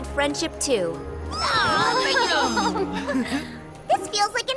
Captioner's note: happy chatter